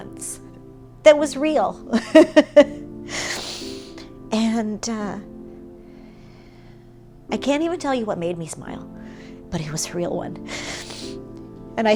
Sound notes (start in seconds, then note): 1.9 laugh